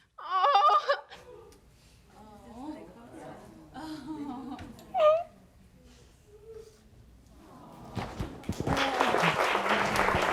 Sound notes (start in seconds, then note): 2.4 audience murmuring; 8.3 audience applauding